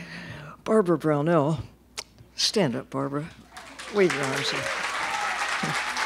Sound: applause

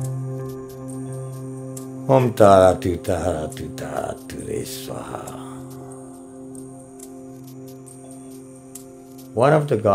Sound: chanting

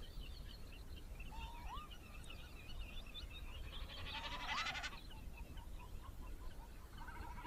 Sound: You can hear common snipes in the wind and other sounds of the BPN

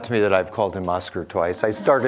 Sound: audience laughing

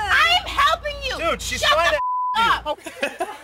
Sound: beep

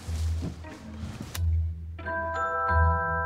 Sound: light switch clicks

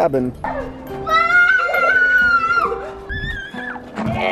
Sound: screaming

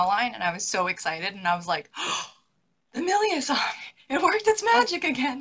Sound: gasps

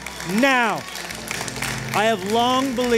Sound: applause

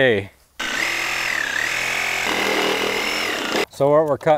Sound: saw whirring

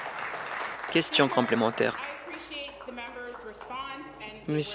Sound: applause

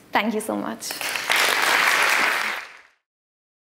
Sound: applause

